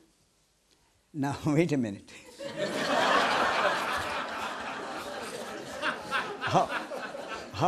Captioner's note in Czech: smích